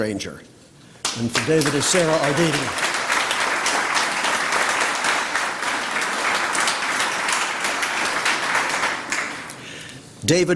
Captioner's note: applause